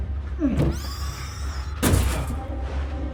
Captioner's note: shriekers bang on the door